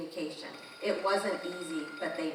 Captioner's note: alarm ringing